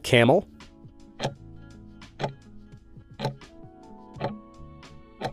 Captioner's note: timer ticking